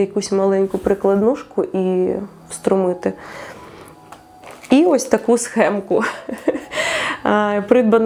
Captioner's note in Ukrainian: сміх